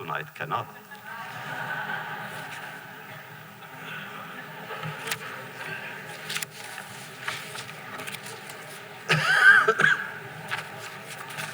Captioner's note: laughter